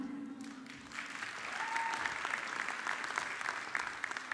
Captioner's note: audience clapping